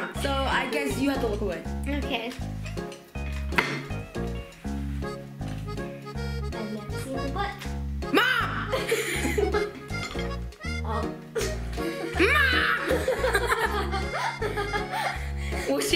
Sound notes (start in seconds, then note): 2.7 upbeat music; 8.1 giggles; 13.1 giggles